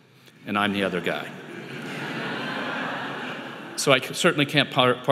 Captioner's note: audience laughing